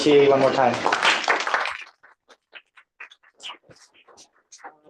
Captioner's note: applause